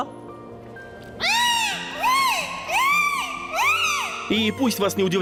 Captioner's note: dolphin singing